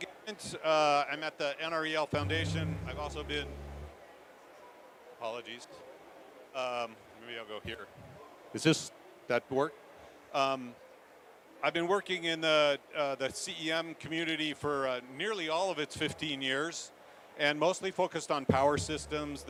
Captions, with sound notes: I'm at the NREL Foundation. (MICROPHONE INTERFERENCE) I've also been... Apologies. Maybe I'll go here. Is this...that work? I've been working in the CEM community for nearly all of its 15 years and mostly focused on power systems.